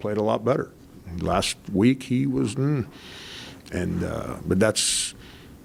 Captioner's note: hums disapprovingly